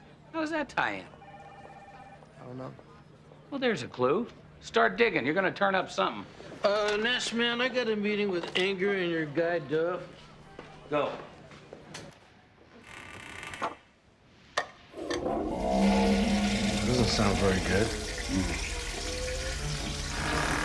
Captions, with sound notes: - How does that tie in? (phone ringing) - I don't know. - Well, there's a clue. Start digging, you're gonna turn up something. - Uh, Nash, man, I got a meeting with Inger and your guy Dov. - Go. (groaning flusher) - That doesn't sound very good. - Mmm.